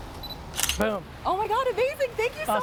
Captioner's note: camera shutter slicking